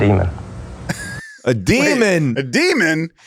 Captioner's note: laughs